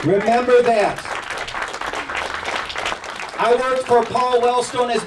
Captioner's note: crowd clapping and cheering